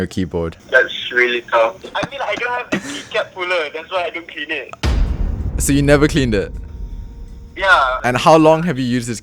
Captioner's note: phone call